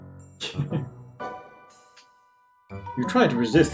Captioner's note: chuckles